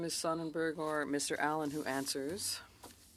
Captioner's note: speaking French